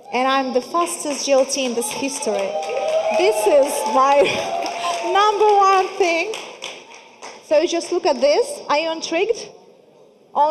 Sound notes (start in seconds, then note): 0.7 audience applauding